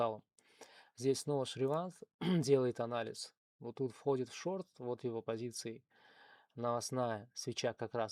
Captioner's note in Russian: откашливается